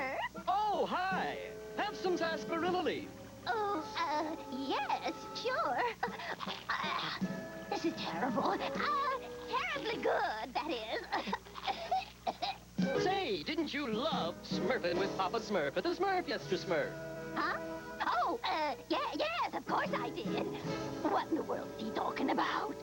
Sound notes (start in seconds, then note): 10.6 coughs